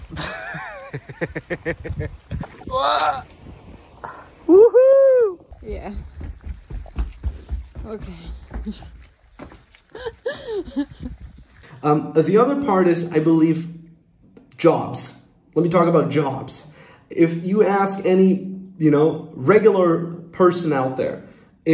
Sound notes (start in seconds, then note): 0.0 laughing; 5.4 feet stomping; 9.9 woman laughing